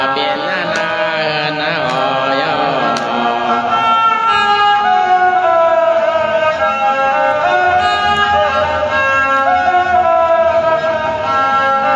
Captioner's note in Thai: ปรบมือ